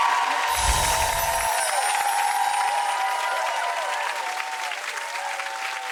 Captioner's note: audience cheering; chimes tinkling